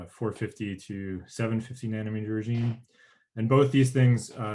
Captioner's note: murmurs